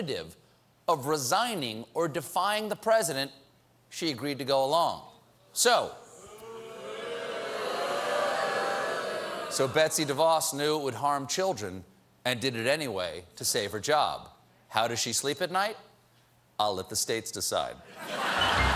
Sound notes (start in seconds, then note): 8.9 audience booing